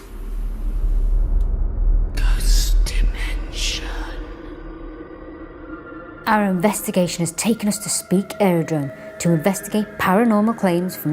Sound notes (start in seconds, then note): 1.8 ominous music; 2.9 ghostly Voice